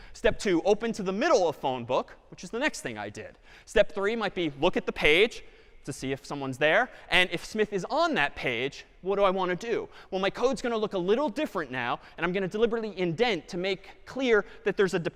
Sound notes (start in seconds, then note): none